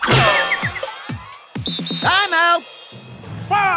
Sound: whistles

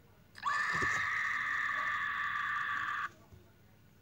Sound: knuckles's scream

